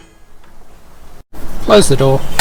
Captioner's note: lever clicks